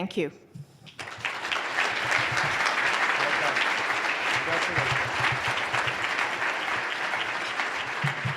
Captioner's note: applause